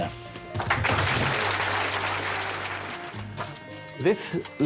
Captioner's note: audience clapping